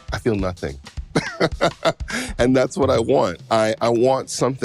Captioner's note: laughing